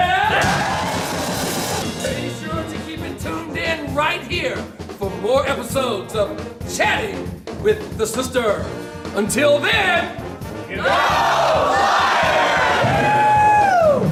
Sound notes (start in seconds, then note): 0.1 crowd cheers and band playing; 10.2 crowd; 13.9 band playing